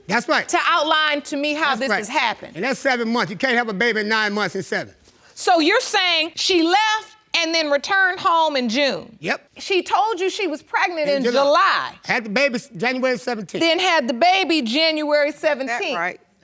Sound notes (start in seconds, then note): none